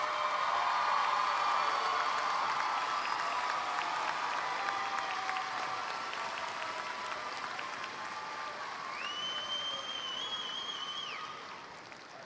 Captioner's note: applause